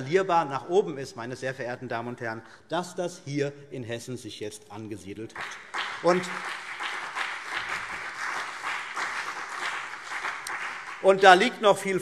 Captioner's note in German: Beifall CDU und BÜNDNIS 90/DIE GRÜNEN